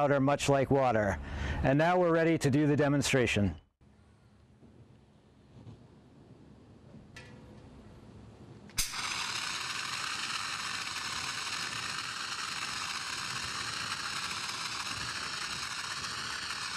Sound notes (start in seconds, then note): 8.7 blows fire extinguisher